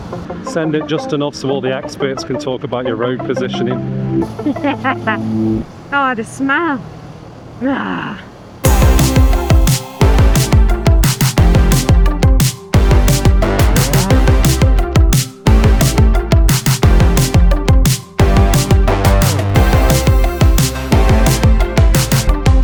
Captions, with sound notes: Send it just enough so all the experts can talk about your road positioning. (laughing) Oh, the smell. (groaning) (upbeat music)